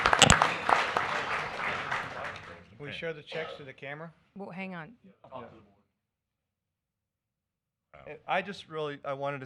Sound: applause

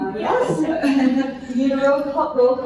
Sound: laughter

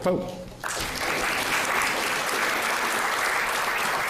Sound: audience clapping

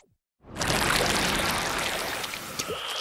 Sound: swim noises; more swimming noises

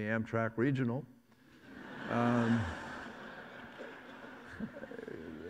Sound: audience laughs

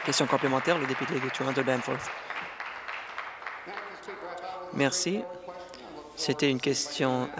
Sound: applause

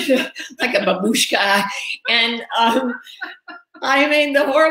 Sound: laughing

